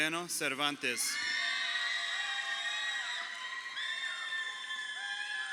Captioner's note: crowd cheering